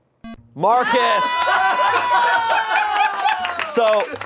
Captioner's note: electronic beep; audience exclaiming